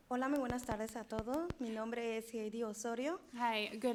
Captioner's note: speaking in foreign language